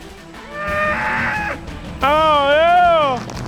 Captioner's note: howling; cattle calling